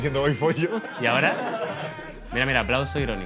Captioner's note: laughs